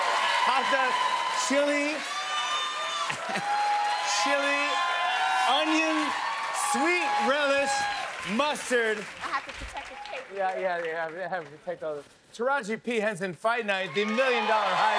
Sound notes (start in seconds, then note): 0.0 cheers and applause; 3.0 laughs